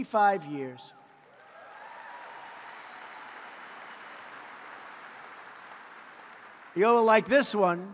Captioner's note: applause